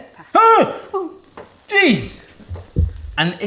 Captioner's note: water bubbling